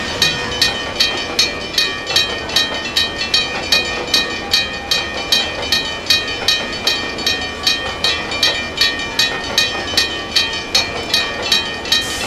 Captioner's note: railroad crossing ringing